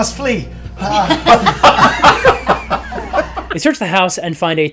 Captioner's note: laughter